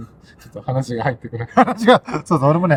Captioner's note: laughs